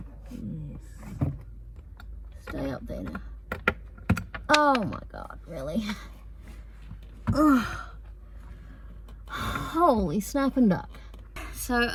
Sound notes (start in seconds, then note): 3.6 screw bounces on the floor